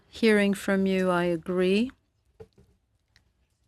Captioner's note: speaking in French